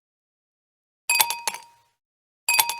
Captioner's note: ice clinking in glass